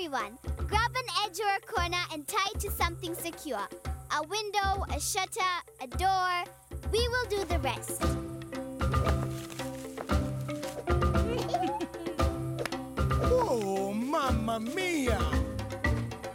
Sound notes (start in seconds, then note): 11.1 giggling